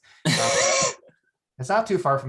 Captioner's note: laughs